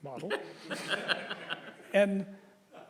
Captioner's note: audience laughs